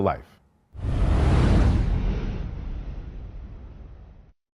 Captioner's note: whoosh